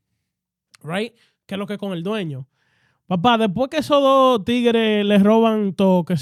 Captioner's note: speaking In Foreign Language